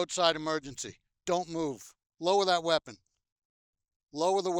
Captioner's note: none